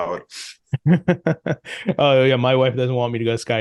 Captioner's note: laughs